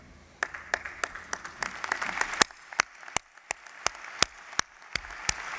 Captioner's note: applause